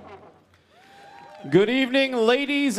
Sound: audience applauding

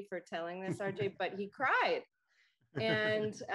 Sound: chuckles

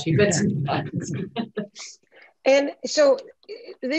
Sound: laughs

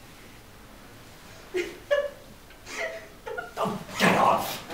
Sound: laughs

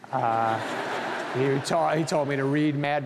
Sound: audience laughing

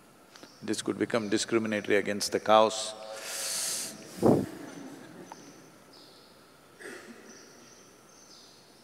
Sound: laughter

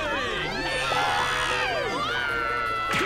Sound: screaming

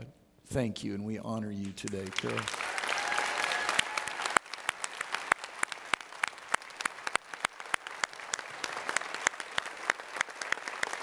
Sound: audience Applauds

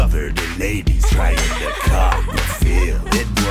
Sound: ladies giggle

